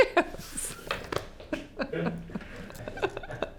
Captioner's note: laughing